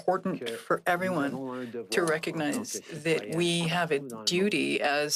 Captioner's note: speaking French